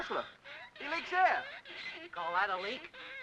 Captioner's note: horse gasps for air